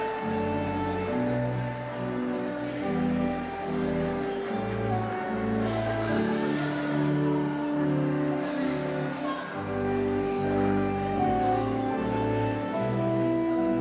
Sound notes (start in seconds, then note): none